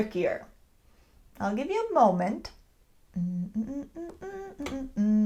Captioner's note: hums